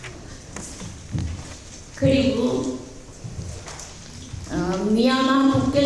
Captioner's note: speaking in foreign language